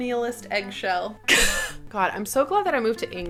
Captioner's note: laughing